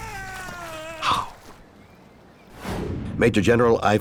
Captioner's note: man screaming